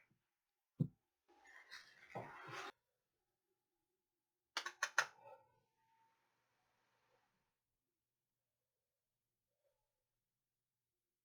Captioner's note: silence